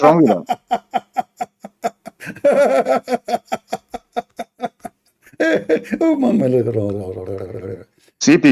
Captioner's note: Ketawa